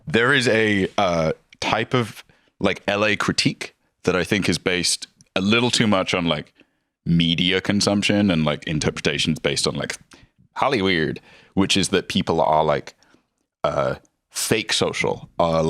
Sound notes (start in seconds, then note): none